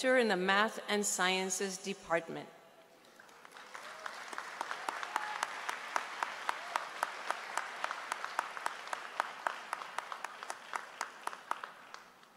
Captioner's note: applause